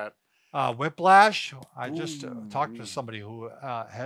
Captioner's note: hums in acknowledgment